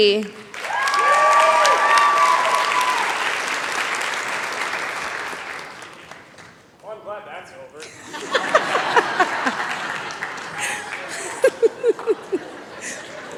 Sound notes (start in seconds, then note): 0.4 cheering, applause; 7.8 laughter